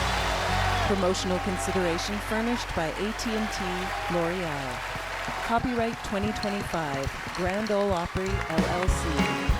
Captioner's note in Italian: aplausos